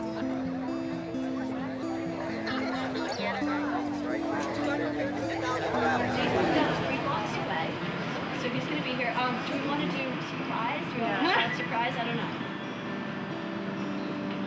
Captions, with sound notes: (crowd chatter) - So he's gonna be here. Do we wanna do surprise, shout surprise, I don't know.